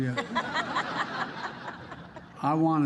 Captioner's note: laughter